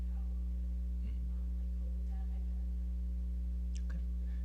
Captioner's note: speaking off mic